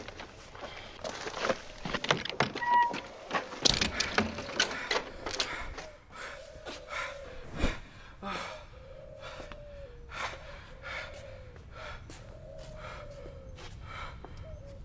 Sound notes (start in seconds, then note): 1.9 creaking door; 8.6 heavy breathing